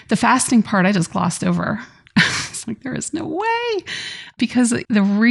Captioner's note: laughs